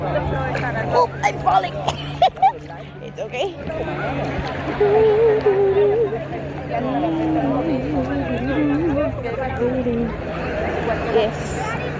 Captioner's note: laughter